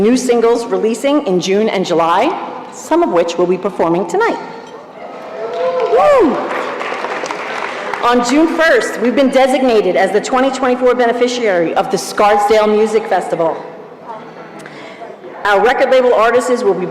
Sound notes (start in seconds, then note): 5.0 cheering